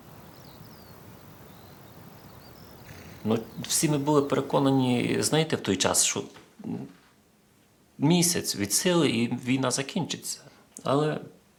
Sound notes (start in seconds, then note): 0.0 birds; 2.7 horse snort